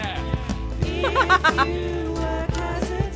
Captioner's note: chuckles